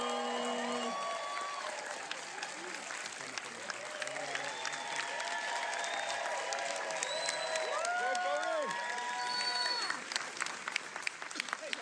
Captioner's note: applause